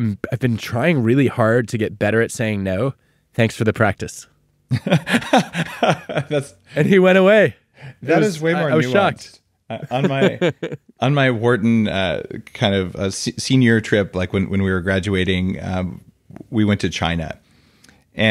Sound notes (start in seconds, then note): 4.7 laughing; 9.8 Adam laughing